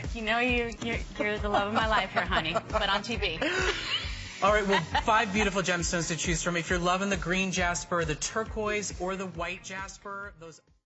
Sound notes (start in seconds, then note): 8.1 laughter